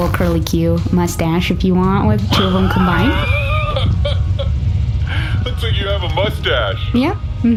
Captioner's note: laughs